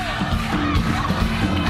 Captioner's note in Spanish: aplausos